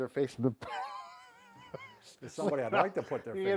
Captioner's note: both chuckle